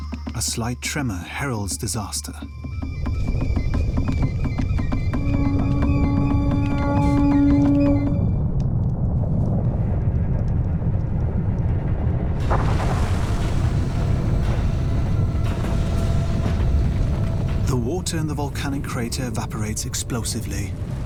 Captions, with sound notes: A slight tremor heralds disaster. [loud rumbling] [loud crashing sounds] The water in the volcanic crater evaporates explosively...